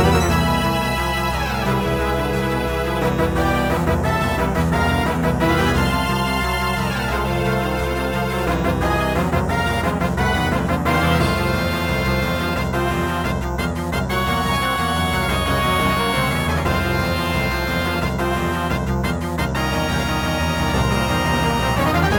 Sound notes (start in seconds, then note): 7.3 more enthusiastic doot doot doot doot doot doot